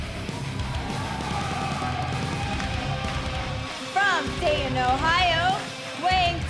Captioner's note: crowd cheering